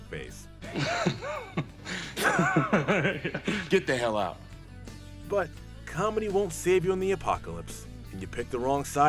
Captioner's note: Fat Joey's awkward laugh